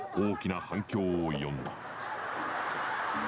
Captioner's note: laughter